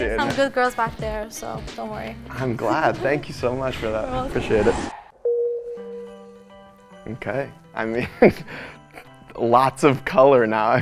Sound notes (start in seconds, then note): 6.1 bell dings